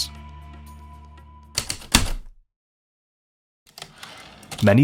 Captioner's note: heavy typewriter keystrokes then return slide